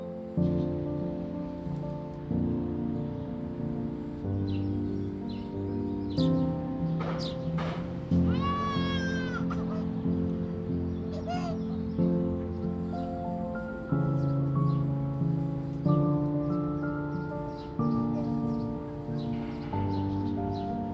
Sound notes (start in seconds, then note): 0.1 bird chirping, Brooklyn street sounds; 8.2 baby starts to cry